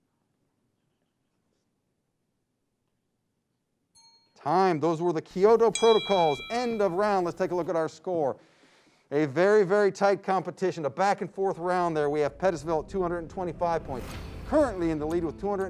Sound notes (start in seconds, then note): 5.4 bell dings; 5.4 beeping sound; 15.0 dramatic music